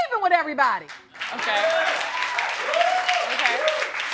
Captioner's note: audience cheering; audience applauding